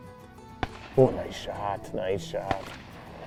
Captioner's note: gunshot